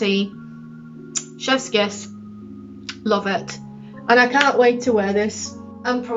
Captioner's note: muah